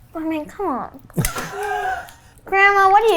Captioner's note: laughs